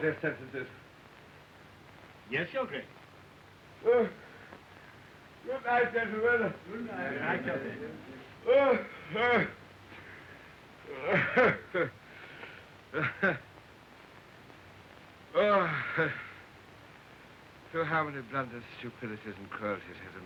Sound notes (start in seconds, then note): 3.8 yawning; 7.4 all saying goodnight; 9.3 yawning